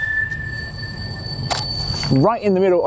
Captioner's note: snapping